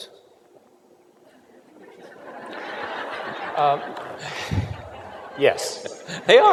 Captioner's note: laughter